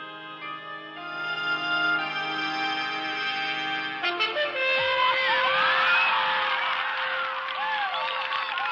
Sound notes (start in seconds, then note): 4.9 cheering and applauding